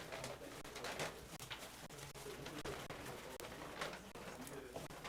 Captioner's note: board chatting quietly